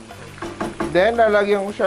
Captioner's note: sizzle; knock